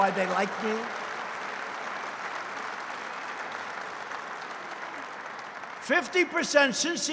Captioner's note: applause